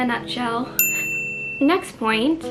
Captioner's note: ding noise